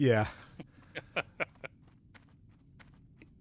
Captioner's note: laughs